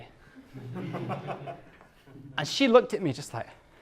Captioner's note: class laughs